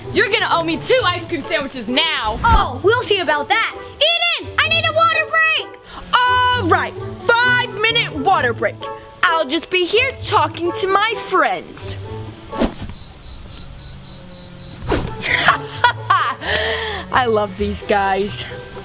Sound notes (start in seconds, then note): 12.1 crickets chirping; 15.1 laughing